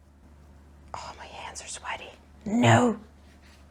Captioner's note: whispering